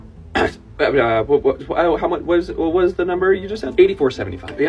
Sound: stammering

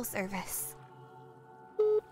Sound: phone beeps

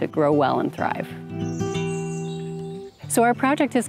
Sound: birds chirping

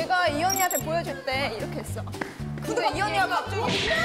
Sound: waddling

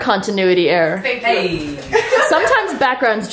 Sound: laughter

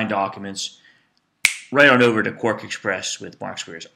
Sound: snaps fingers

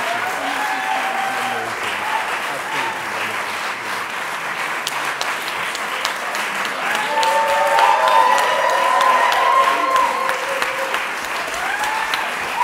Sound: audience applauding; audience cheering

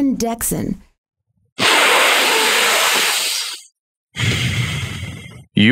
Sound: deep inhale

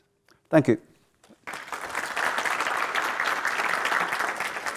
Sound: audience applauding

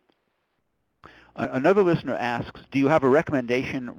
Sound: voiceover

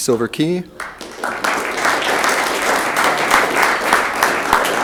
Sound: room applauds

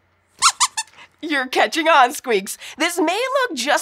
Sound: squeaks squeaking

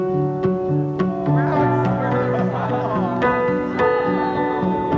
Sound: bridesmen laughs

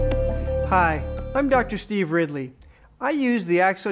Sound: voiceover

